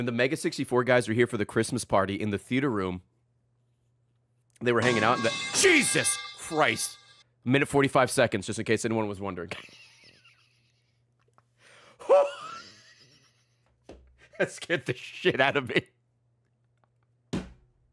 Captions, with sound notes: Mega 64 guys were here for the Christmas party in the theater room, they were hanging out-- [metal pipe noise] Jesus Christ! A minute 45 seconds just in case anyone was wondering. Whew! (laughs) That scared the shit out of me.